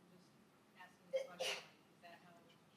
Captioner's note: person sneezing